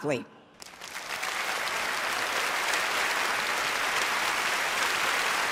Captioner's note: audience applauding